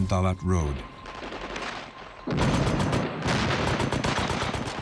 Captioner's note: gunfire, explosions